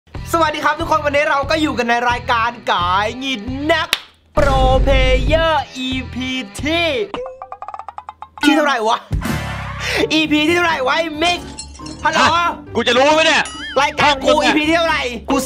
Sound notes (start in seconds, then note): 3.9 slaps